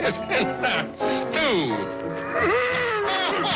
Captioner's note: laughs